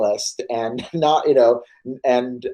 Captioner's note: laughs